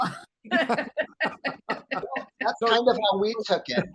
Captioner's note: all laughing